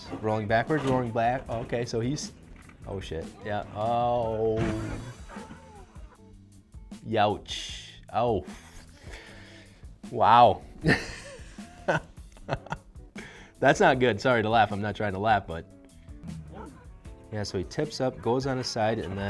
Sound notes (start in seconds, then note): 10.8 laughing